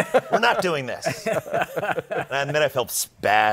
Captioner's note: laughter